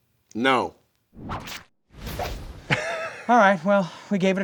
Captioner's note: whip swooshing; whip swooshing